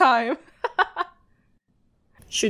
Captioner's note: chuckles